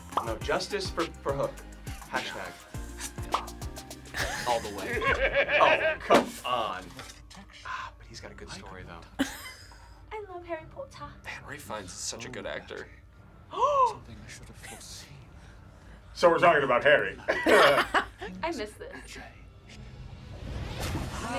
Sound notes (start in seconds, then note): 9.2 React laughs; 13.4 gasps; 17.2 both laugh